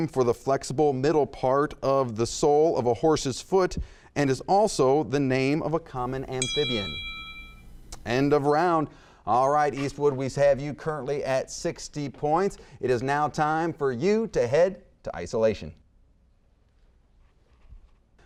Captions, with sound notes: for the flexible part of the sole of a horse's foot and is also the name of a common amphibian? (bell rings) End of round. All right Eastwood, we have you current at 60 points. It is now time for you head to isolation.